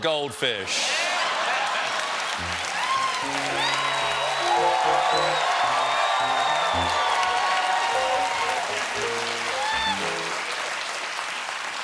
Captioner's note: cheers and applause